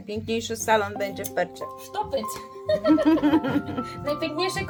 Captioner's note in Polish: śmiech